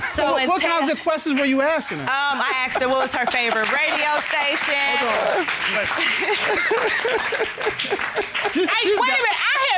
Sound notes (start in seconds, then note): 5.2 audience applauds; 5.9 laughing